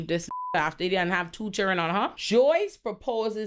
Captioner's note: beep